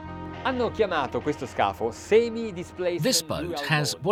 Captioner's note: speaking in foreign language